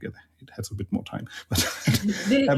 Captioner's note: laughs